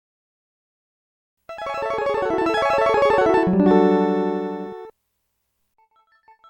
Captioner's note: Capcom sound